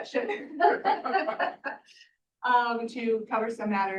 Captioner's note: committee laughing